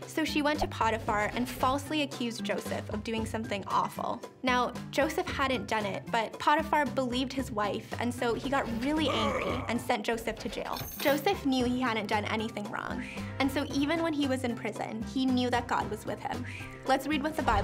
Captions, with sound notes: So she went to Potiphar and falsely accused Joseph of doing something awful. Now, Joseph hadn't done it, but Potiphar believed his wife. And so he got really angry (Potiphar grunts) and sent Joseph to jail. (chains clanking) Joseph knew he hadn't done anything wrong. And so even when he was in prison he knew that God was with him.